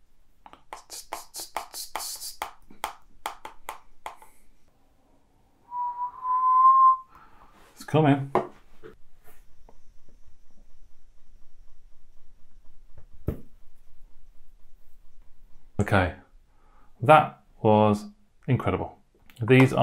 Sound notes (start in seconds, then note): 0.6 taps fingers to music; 5.6 whistles